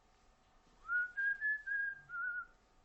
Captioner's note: whistles the song